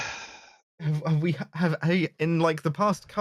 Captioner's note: trips and stumbles over words